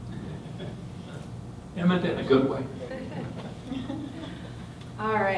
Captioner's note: laughter